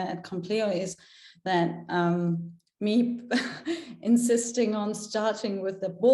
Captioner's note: chuckles